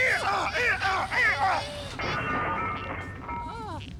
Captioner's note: clattering